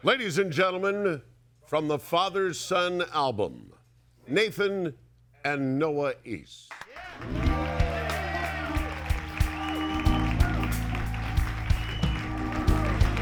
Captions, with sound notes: - Ladies and gentlemen, from the "Father Son" album, Nathan and Noah East. (audience cheering and applauding)